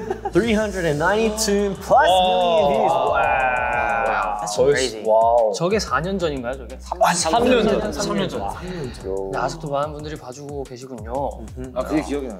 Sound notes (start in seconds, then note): 6.0 speaking Korean